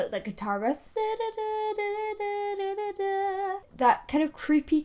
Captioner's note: humming